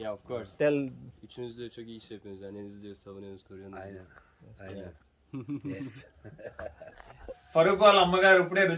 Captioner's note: speaking in Foreign language